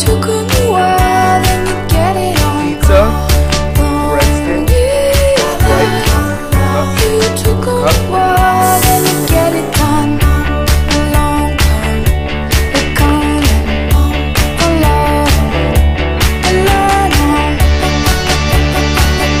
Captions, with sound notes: PIZZA. Bread Sticks Sprite Cup Cup *Sizzles*